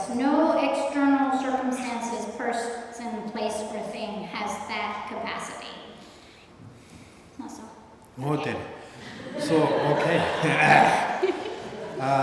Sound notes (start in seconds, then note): 9.0 laughter